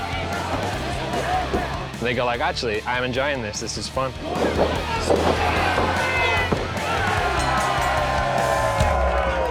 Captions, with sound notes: They go like, "Actually, I am enjoying this. This is fun." -[BELL DINGS] -[CROWD CHEERING]